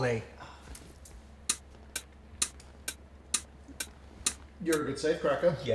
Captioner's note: clock ticking